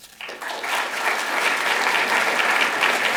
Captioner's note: applause